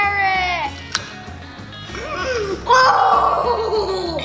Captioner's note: carrot crunching